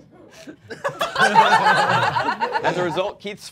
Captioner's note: all laughing